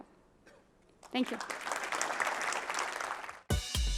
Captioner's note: applause